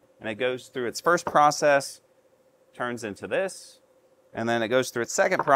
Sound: none

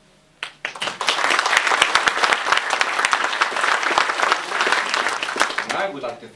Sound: applause

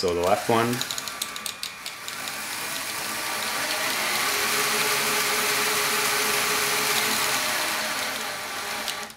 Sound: motor noise

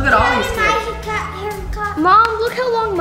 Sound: shouts in background

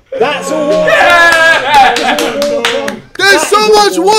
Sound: claps

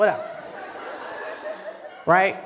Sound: laughter

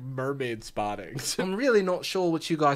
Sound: speaking in Australian accent

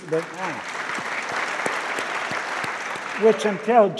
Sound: audience claps

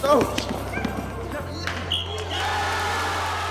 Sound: cheers

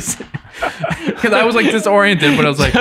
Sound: all laugh

